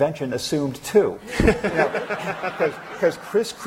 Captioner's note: laughter